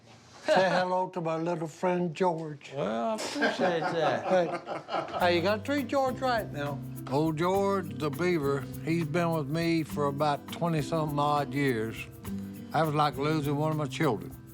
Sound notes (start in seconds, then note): 3.2 laughter